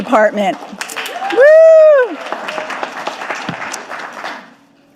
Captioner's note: audience applauding